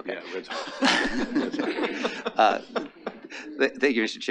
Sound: attendees laughing

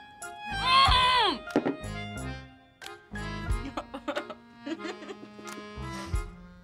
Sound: laughs; muffled screaming

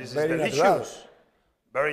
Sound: speaking spanish

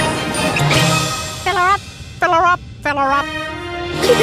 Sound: monkey noises; giggling

